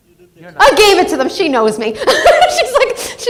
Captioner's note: laughs